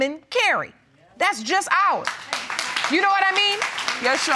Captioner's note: audience applauds